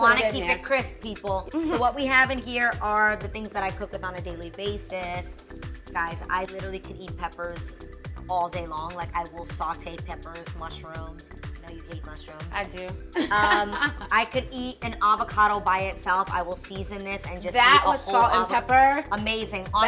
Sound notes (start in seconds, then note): 13.2 laughing